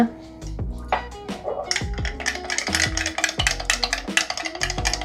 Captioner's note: stirring